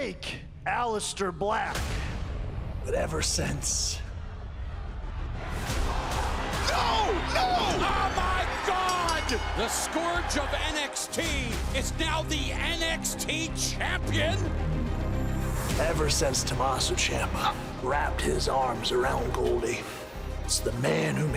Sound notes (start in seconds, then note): 11.3 bell ringing